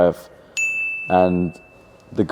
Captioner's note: graphic dings